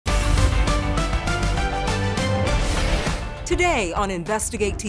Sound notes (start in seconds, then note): 0.0 exciting music; 2.4 graphics whooshing